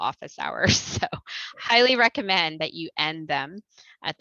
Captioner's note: laughter